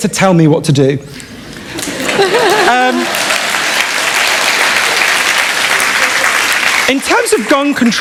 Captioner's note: applause